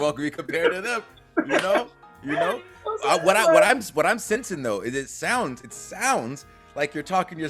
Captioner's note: laugh